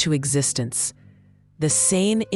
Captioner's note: pause